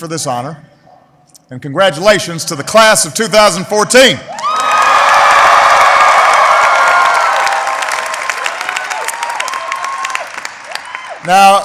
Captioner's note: applause